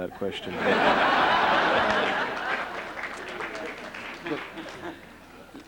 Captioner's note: laughter